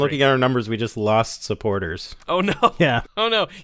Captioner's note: laughter